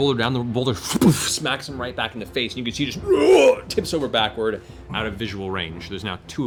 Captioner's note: groans